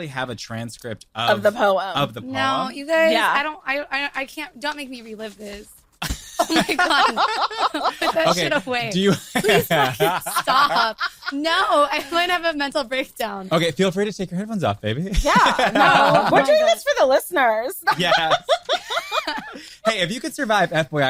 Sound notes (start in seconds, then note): 6.0 group laughing; 20.2 laughs